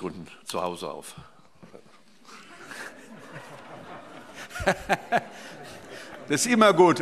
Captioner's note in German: Heiterkeit